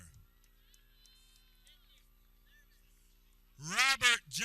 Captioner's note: people cheering